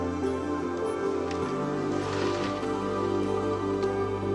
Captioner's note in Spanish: Sonido al cerrar el armario